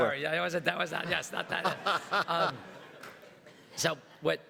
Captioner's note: everybody laughs